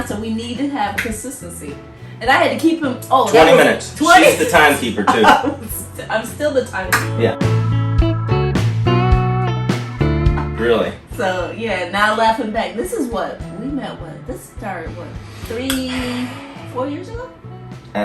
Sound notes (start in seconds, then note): 5.1 laughs; 8.2 upbeat music